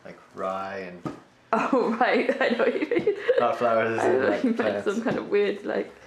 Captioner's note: laughing